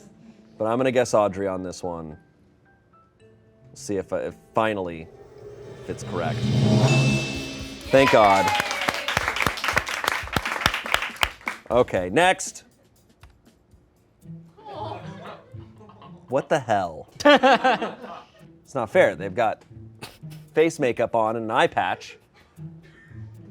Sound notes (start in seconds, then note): 5.4 bell chimes; 8.0 crew cheers and applauds